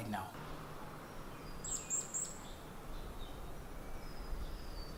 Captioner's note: birds chirping